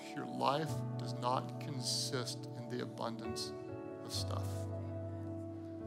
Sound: none

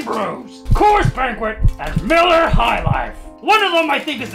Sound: ominous Heartbeat

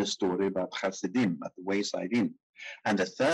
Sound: speaking in foreign language

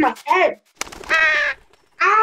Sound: cawing

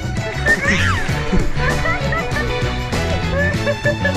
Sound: laughing

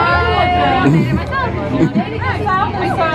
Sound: giggling

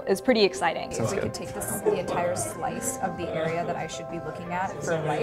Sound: chatter

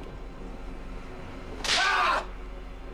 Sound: screams

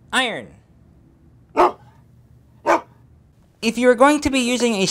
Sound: dog barking

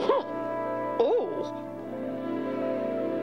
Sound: grunts

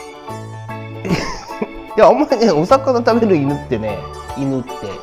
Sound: laughs

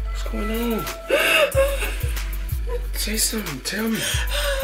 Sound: Renee cries

